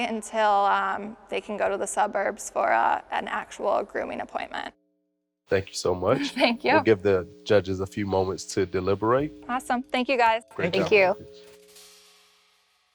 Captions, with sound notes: until they can go to the suburbs for an actual grooming appointment. - Thank you so much. - (laughs) Thank you. - We'll give the judges a few moments to deliberate. - Awesome, thank you guys. - Thank you. - Thank you.